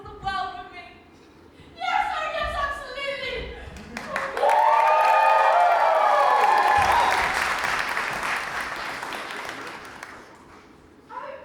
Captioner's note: audience claps and cheers